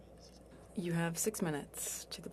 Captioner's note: speaking French